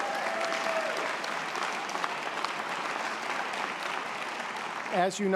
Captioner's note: audience applause